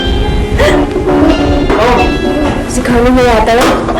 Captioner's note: chuckles